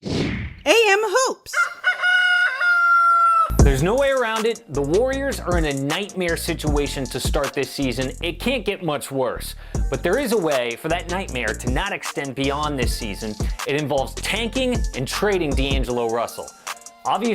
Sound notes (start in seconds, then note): 0.0 whooshing sound; 1.5 rooster crows